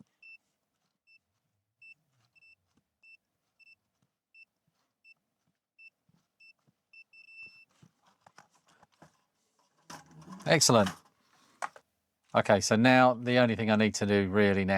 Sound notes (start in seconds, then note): 5.1 beeping